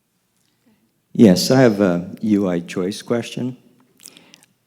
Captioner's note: voiceover